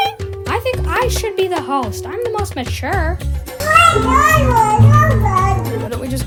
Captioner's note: babbles